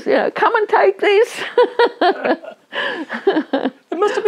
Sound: both laugh

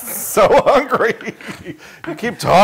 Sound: laugh

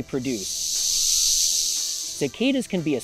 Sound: cicada noises

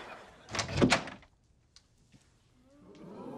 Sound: door opens

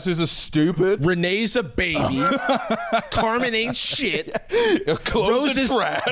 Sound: laughing

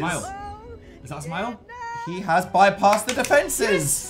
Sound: claps

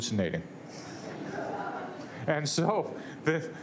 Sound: laughter

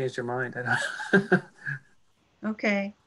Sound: laughs

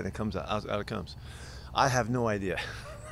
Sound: laughter

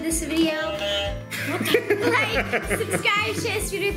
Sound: buzzer honks

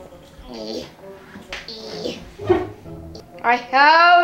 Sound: grunting

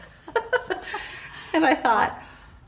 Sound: laughing

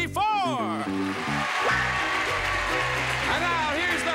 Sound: applauding

